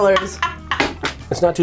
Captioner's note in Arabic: يضحك